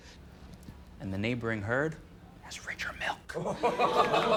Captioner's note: whispers